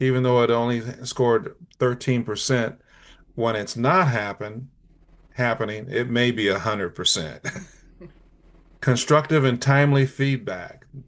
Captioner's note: light laugh